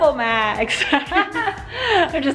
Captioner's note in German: lacht